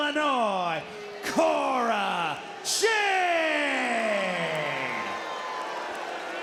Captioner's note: crowd boos